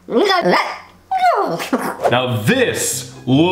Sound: chattering

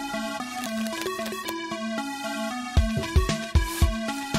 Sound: paper crinkling

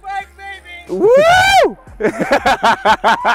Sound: man shouts; they laugh

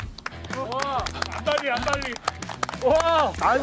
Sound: applause from the roused audience

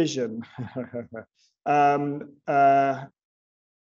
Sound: chuckles

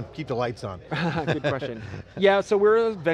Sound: laughter

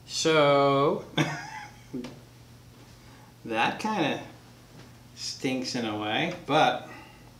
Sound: chuckles quietly

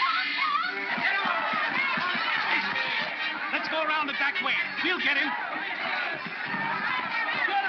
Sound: crowd shouting

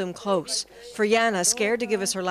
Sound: speaking Foreign Language

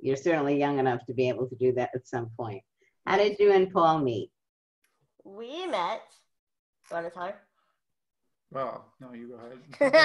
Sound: laughs

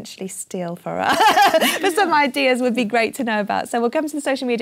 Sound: laugh

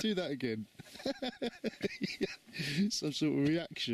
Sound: laughs

